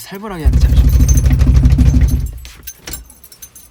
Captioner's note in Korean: 문 두드리는 소리